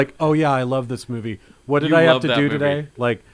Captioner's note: laughs